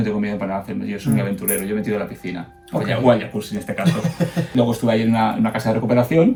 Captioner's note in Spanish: risas